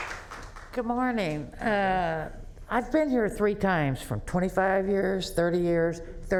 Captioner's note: applause